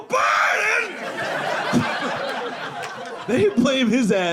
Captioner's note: audience laughing